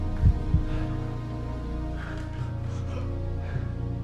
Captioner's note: heart beating